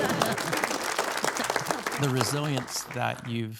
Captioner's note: audience applauding